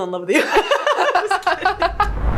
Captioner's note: both laughing